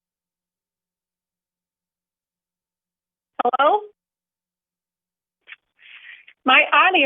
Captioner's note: audio interruption